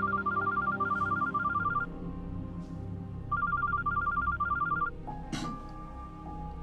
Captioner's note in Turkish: Telefon Çalıyor